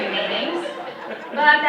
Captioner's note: audience chuckles